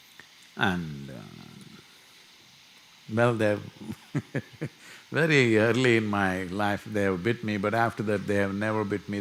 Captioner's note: laughs